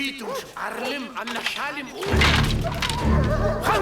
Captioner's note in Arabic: الصوت المنطوق البدوي